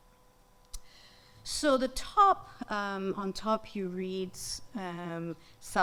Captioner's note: speaks in foreign language